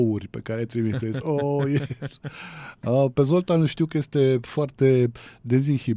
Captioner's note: laughter